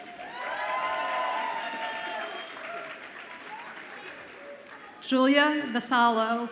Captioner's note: audience applauds and cheers